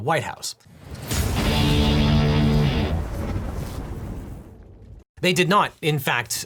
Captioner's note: logo crashes; aggressive music